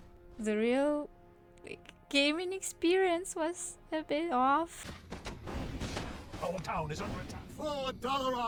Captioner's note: in-game sounds